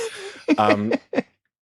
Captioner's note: laughs